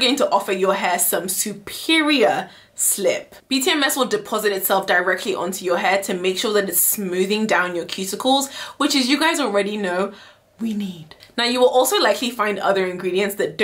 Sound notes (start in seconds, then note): 10.7 whispering